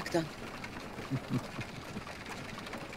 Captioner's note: laughter